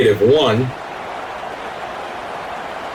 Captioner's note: crowd Noises